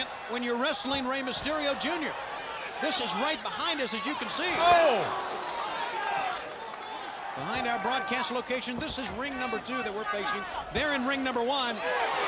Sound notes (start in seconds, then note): 5.7 crowd chattering; 12.0 crowd cheering